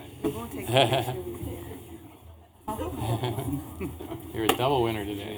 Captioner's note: laughter